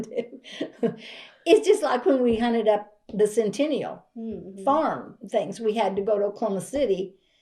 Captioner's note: laughs